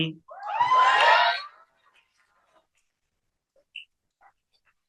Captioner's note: cheering